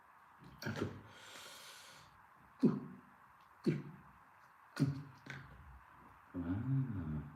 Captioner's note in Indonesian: menghela napas